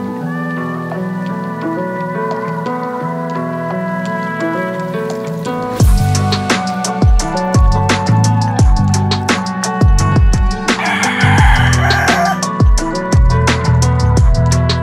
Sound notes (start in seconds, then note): 10.6 rooster crows